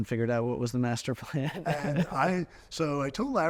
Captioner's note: chuckling